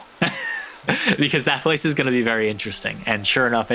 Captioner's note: laughs